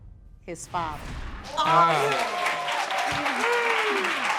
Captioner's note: applause